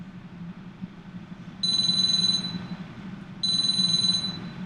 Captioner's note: phone ringing